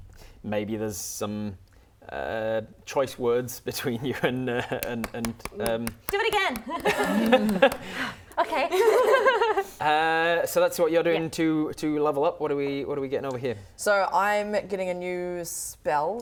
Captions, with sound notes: maybe there's some choice words between you and *clapping* Do it again *clapping* Okay So that's what you're doing to level up What are we getting over here? So I'm getting a new spell